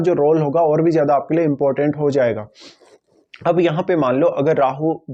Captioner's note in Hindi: नाक से की जाने वाली आवाज़